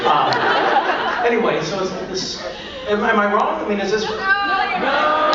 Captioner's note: crowd laughs; stutters